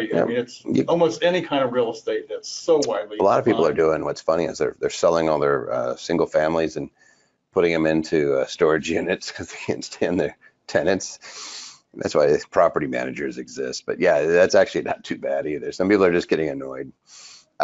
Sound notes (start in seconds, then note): 9.2 chuckles